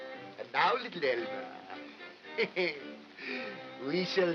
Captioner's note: chuckles